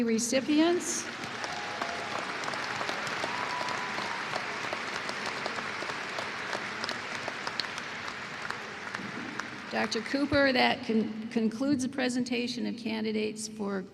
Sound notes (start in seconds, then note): 4.5 applause